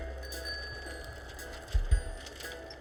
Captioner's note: bicycle bell rings